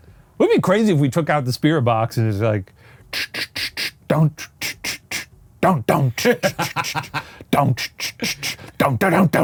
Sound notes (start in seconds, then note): 3.0 mimics spirit box; 5.9 laughs